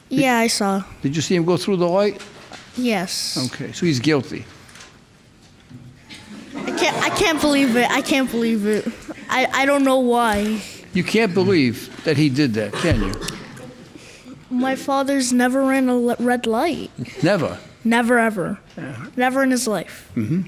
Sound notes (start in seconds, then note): 6.1 crowd laughs